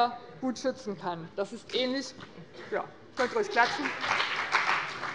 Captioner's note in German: Beifall bei dem BÜNDNIS 90/DIE GRÜNEN und der CDU